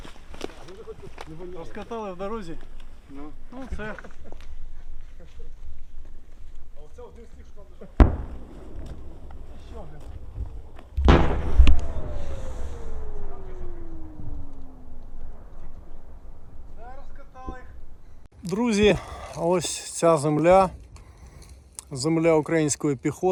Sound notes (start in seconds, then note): 7.2 far cannon shot; 11.0 shot, howl of mortar shell flying